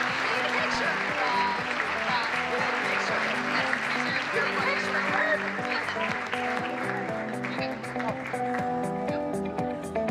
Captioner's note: applause